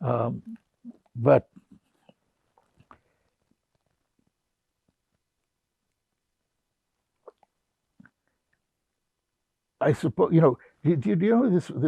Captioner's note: pauses 8 seconds